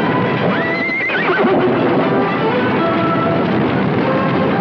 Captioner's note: neighing